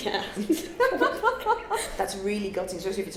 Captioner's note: laughing